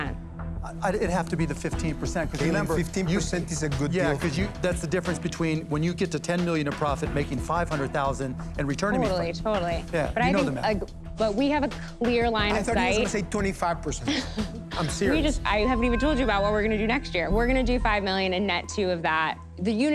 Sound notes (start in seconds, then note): 14.0 chuckles